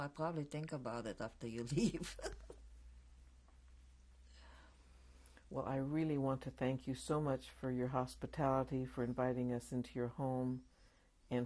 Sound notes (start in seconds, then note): 1.6 laughs